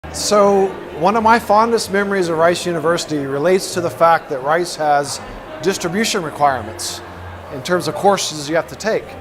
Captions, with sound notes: >> [Background crowd noise] So one of my fondest memories of Rice University relates to the fact that Rice has distribution requirements, in terms of courses you have to take.